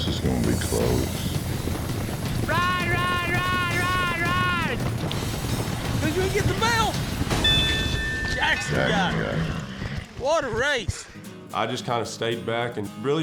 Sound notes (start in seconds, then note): 7.3 bell rings